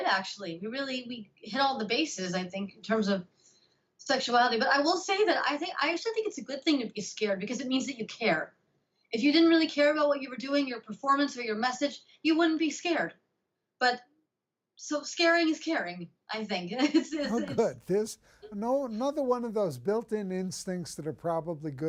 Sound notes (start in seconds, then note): 17.2 laughs